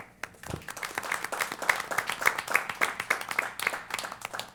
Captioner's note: applause